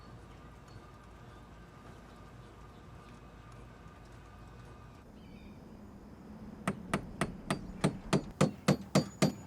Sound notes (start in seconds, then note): 6.6 hammer thudding